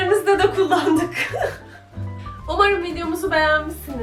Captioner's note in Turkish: gülüşmeler